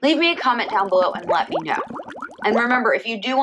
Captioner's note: water bubbling